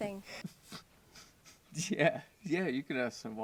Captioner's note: man chuckles